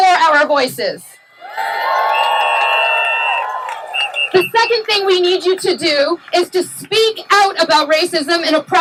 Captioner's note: cheering